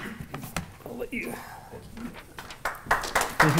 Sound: applause

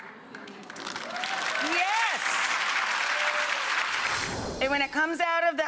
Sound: audience applauds

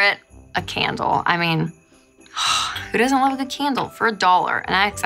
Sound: sigh

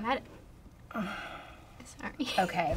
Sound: sighs

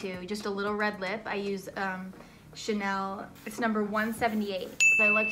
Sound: bell dings

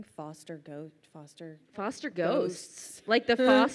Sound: mumbles

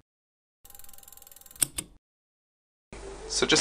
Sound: film rolling

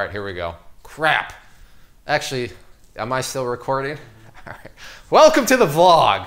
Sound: laughs

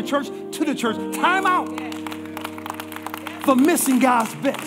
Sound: congregation applauding

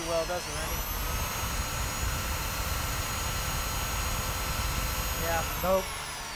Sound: drill sounds

